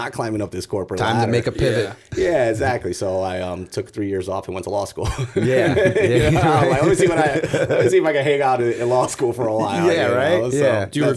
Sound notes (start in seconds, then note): 4.9 chuckle; 5.0 laughter